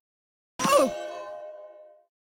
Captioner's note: groan of pain